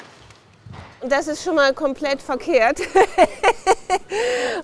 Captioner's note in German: lacht